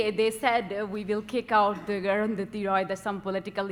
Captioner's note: speaking foreign language